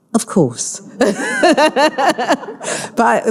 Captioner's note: all laughing